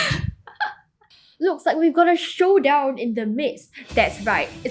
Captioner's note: laughs; voiceover